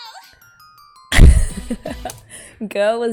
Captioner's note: laughs